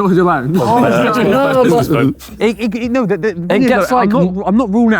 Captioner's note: group laughing